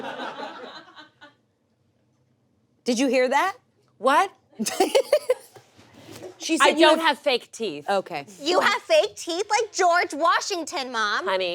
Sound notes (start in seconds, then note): 0.0 audience laughs; 4.6 laughs